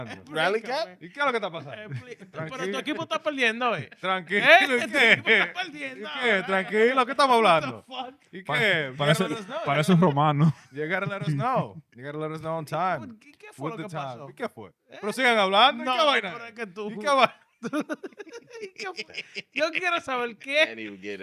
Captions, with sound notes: You gotta let us know. You gotta let us know on time. (Speaking In Foreign Language) Then he'll get